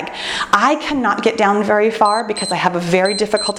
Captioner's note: timer beeps